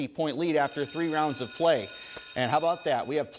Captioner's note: bell rings